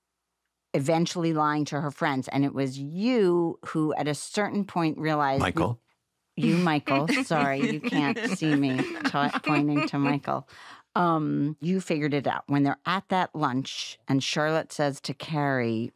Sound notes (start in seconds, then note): 9.8 laughter